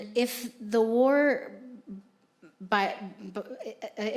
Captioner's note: none